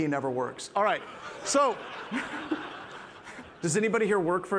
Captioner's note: participants laughing; laughs